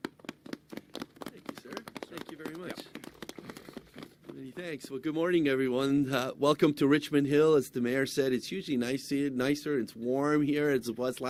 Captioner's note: applause